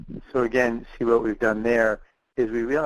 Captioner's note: voiceover